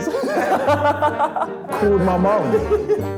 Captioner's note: laughter